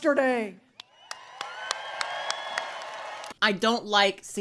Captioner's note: crowd cheering